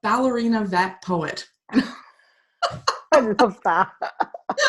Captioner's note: laughing